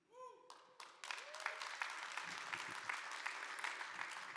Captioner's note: audience applauding